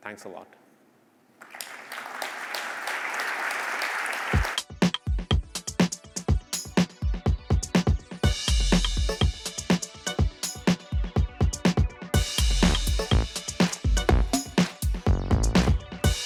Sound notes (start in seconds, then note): 1.4 applause